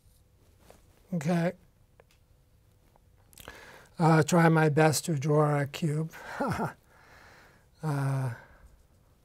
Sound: laugh

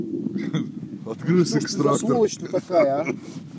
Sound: laughing

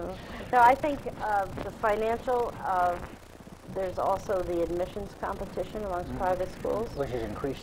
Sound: laughs

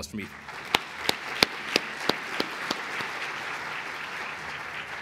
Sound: applause

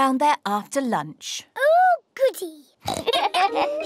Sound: oinks; both laugh

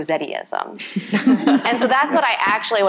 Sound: audience laughing

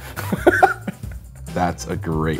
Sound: man laughing

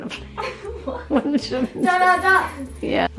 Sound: laughs

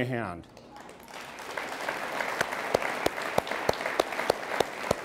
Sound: all applauding

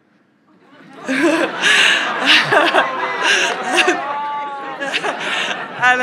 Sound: and crowd laughs

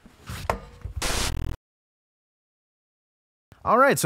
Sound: static sound

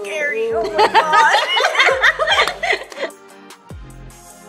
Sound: girls laugh

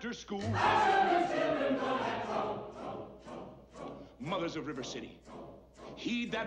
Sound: In background, Trouble is chanted

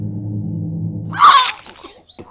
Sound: horrible pained squawks

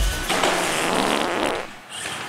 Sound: wet fart sound effect

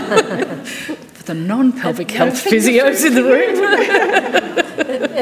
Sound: panellists laughing; panellists laughing; laughs

